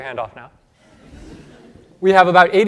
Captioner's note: laughter